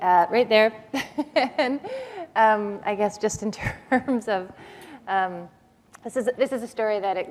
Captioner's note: chuckle